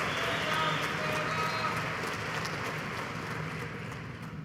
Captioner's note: applause